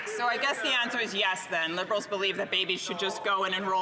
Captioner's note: some Applause